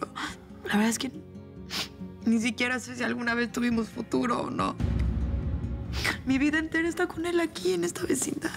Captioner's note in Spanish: Solloza